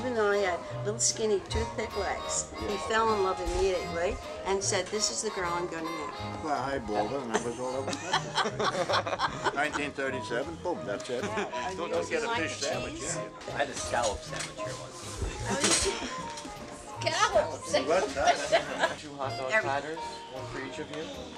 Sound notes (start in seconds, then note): 8.6 group laughs; 18.0 laughs